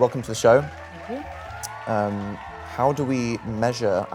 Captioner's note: crowd cheering